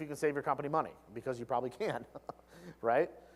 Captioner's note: laugh